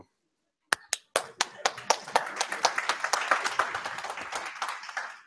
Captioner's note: scattered applause